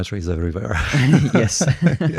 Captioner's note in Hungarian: nevetés